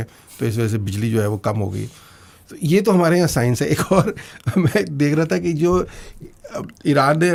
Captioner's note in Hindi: हंसी